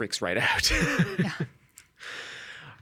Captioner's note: chuckling